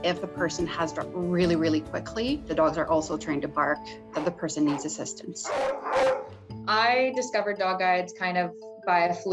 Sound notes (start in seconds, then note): 5.4 dog barking